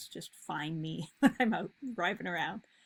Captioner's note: chuckles